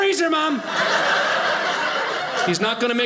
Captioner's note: audience laughing